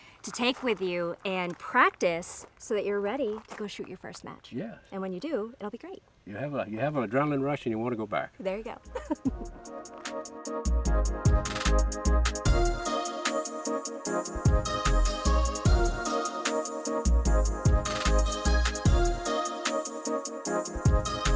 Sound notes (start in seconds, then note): 8.8 chuckling; 9.8 upbeat music begins; 17.8 upbeat music continues